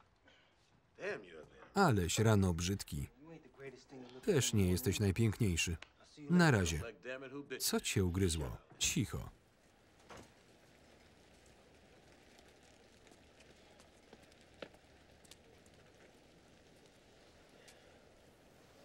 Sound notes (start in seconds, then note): 9.4 rain falling